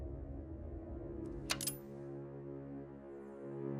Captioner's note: click